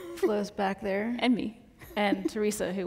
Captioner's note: giggles